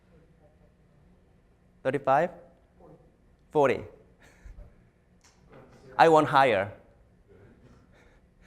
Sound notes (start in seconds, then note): 4.3 chuckles